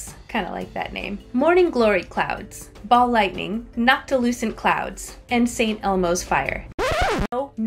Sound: record scratch

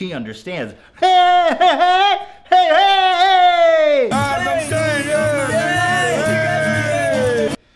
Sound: yelling

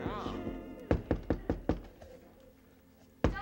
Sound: door knock

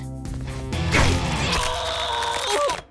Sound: straining

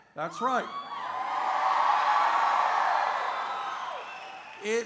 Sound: cheers

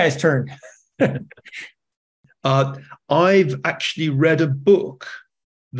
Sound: laugh

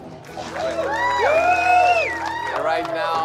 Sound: cheers and applause

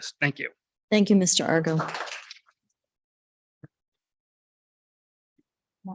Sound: audience applauds

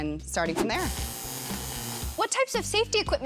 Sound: welder buzzes

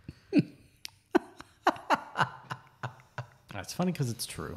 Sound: laughs

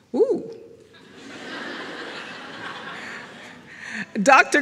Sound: audience laughs

